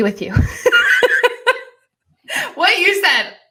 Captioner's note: laughing